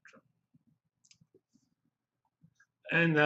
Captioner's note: pause